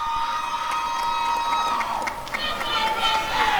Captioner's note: applause and cheering